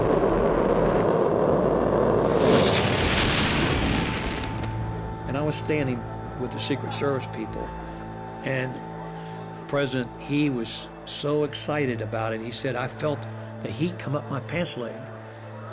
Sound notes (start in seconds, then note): 2.5 fire bursts, then stops